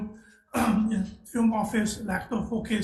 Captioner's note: coughing